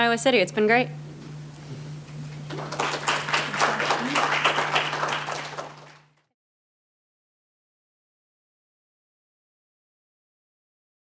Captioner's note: applause